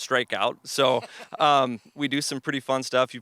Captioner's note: laughs